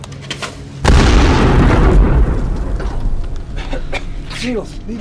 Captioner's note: object clanks; explosion booms